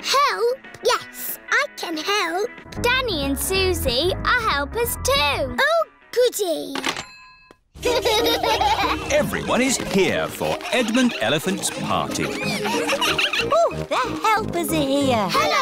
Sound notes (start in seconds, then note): 7.8 children laughing